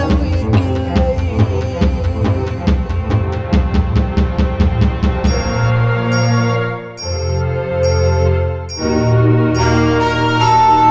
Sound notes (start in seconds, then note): none